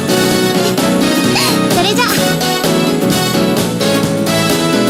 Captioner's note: giggling